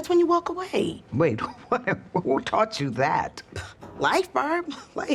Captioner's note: chuckles